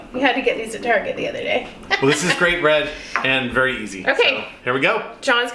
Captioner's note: ha Ha Ha